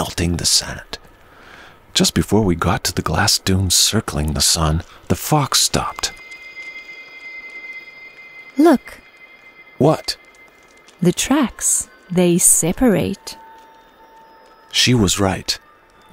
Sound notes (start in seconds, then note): 6.5 desert sound